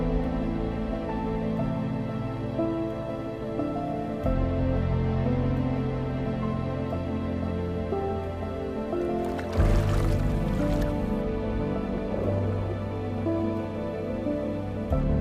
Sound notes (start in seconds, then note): 1.2 water bubbling